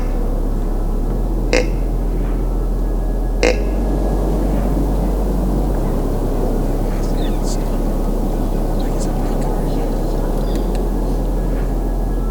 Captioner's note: sound of grunt call